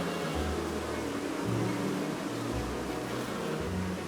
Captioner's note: bees buzzing